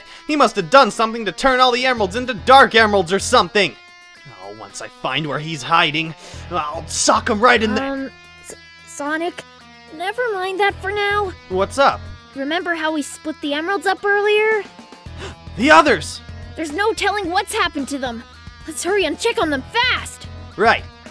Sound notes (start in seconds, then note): 15.1 gasps